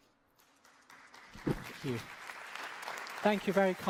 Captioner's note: applause